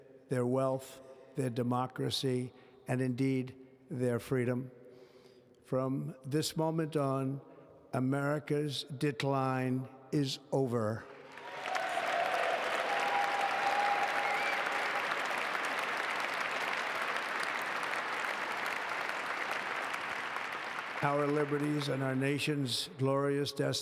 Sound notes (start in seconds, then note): 11.0 applause